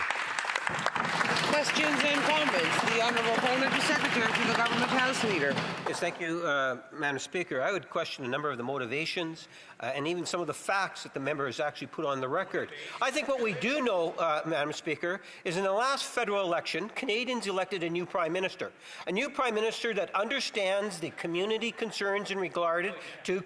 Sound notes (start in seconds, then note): 3.3 applause